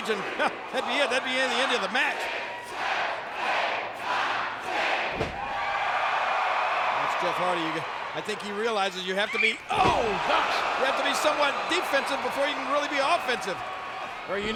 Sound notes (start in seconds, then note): 5.8 audience cheering